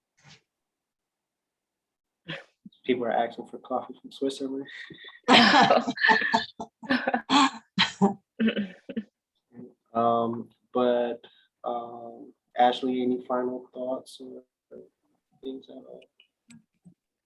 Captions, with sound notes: People are asking for coffee from Switzerland. [LAUGHTER] But Ashley, any final thoughts or things to add?